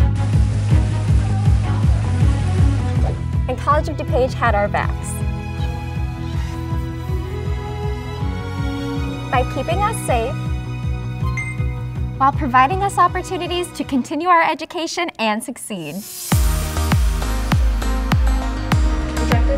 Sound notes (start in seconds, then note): 0.2 food sizzling; 11.3 camera dings; 15.9 upbeat music